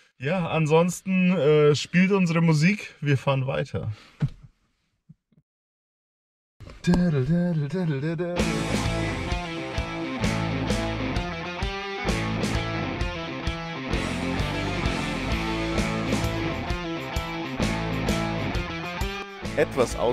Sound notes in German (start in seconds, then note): 6.8 summt ein Lied